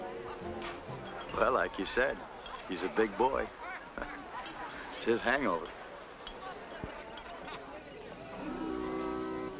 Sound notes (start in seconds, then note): 4.5 chuckles